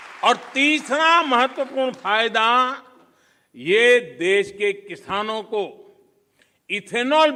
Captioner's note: applause